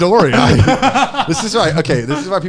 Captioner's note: laughing